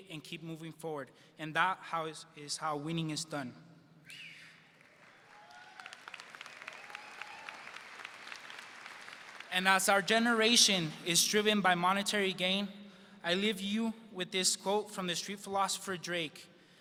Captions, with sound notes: "and keep moving forward, and that is how winning is done." (audience cheers) And as our generation is driven by monetary gain, I leave you with this quote from the street philosopher Drake,